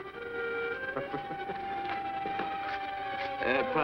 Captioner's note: laughing